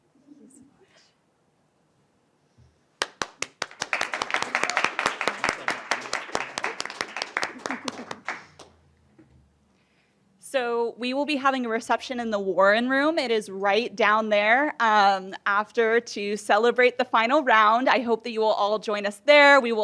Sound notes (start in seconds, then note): 3.0 applause